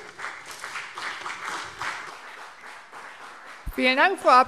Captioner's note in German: Beifall BÜNDNIS 90/DIE GRÜNEN und CDU